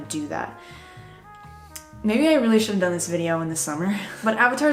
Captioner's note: tisk